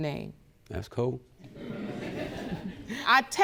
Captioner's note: audience chuckling